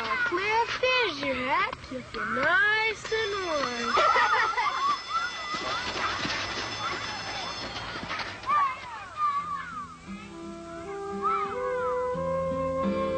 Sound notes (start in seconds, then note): 3.7 children Laughing